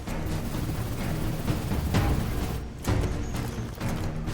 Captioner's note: dramatic music continues; guns firing